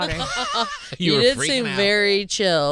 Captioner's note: Fortune and Tom laughing